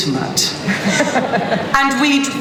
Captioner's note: laughter